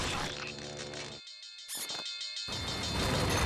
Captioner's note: alarm ringing